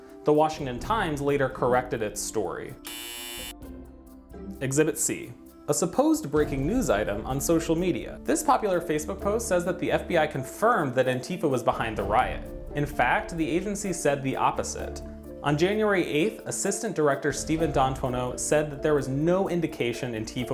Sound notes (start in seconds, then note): 2.8 buzzer